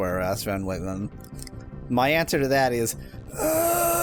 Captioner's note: groan